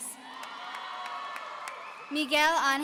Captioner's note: audience cheering